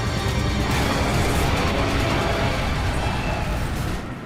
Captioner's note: jet whooshing; jet crashes